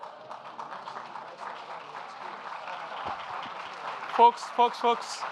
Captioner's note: audience applauding